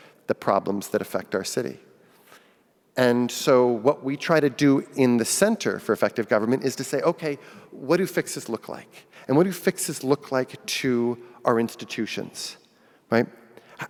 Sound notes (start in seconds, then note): none